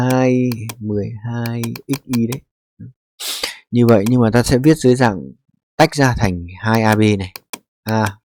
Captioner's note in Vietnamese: khịt mũi